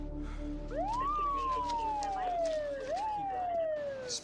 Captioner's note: siren wails, indistinct radio transmissions